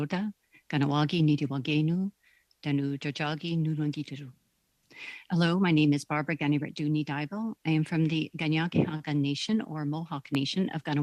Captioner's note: speaking Alternate Language